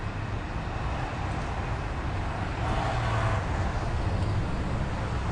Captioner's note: traffic rumbling quietly